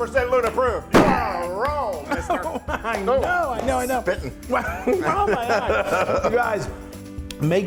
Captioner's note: laugh